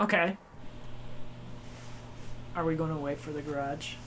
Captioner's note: the mic picked up the garage door opening